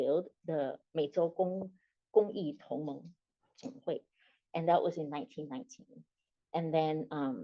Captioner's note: non-english speech